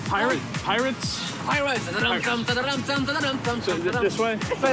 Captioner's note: hums